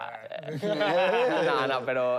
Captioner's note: laughter